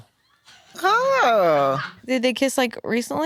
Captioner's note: crew member laughs